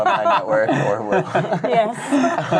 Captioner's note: laughing